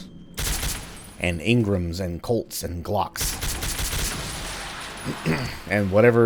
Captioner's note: Ingram firing